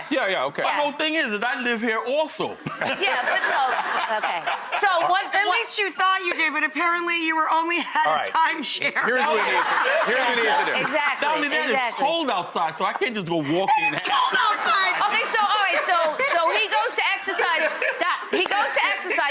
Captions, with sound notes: Yeah, yeah, okay. Well, the thing is that I live here also. Yeah, but, oh, okay, so what. At least you thought you did but apparently you were only at a time share. (audience laughs) Here's what we need to, here's what we need to do. Exactly, exactly. Not only that, it's cold outside so I can't just go walking outside. And it's cold outside! Okay, so all right, so he goes, he goes to exercise